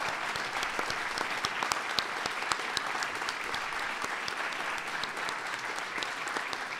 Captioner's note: applause